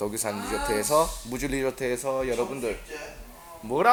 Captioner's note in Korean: 시끌시끌